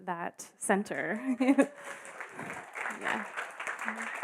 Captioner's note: applauding